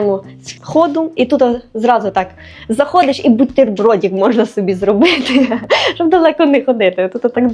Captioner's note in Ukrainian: сміх